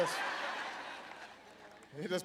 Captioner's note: laughter